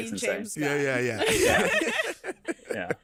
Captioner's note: all laughing